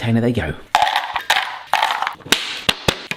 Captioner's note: cereal rattles; container snaps